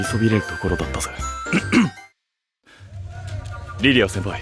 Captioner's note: clears throat